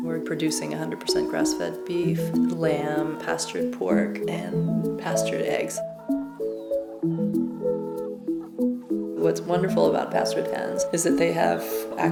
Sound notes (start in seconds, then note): 6.4 hens clucking